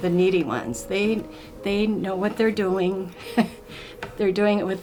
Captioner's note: chuckling